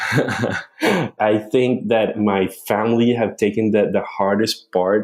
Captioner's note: laughs